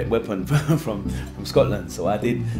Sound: laughs

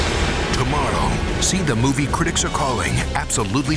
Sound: voiceover

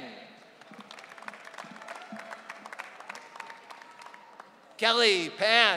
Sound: audience cheering

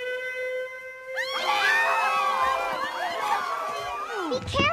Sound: alam sound; tourists screaming

